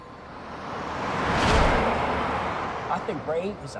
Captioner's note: car rumbling